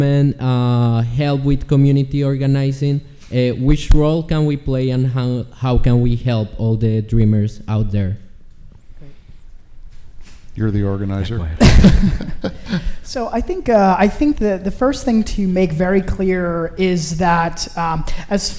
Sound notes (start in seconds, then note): 11.6 chuckles